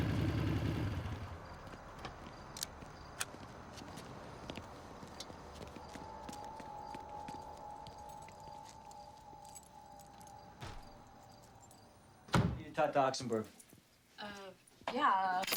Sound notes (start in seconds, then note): 4.9 footsteps tapping; 5.6 suspenseful music